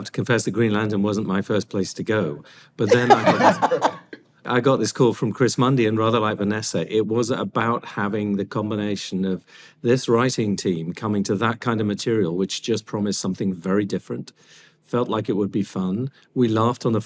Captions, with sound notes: that Green Lantern wasn't my first place to go. -But then I got this... -(ALL LAUGH) I got this call from Chris Mundy, and rather like Vanessa, it was about having the combination of this writing team coming to that kind of material, which just promised something very different. Felt like it would be fun. We laughed on the phone call,